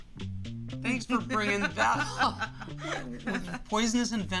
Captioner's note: laughing